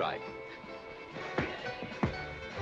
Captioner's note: pop